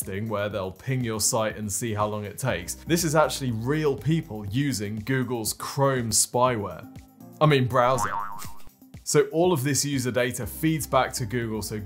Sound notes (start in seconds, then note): 7.9 spring boings